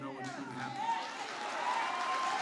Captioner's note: applause